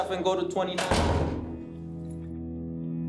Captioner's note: door thudding; tense music